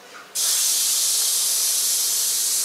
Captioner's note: hissing